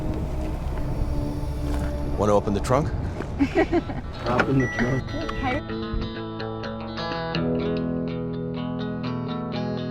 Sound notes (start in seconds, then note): 3.4 Eden laughs; 4.0 car beeps; 5.4 easygoing music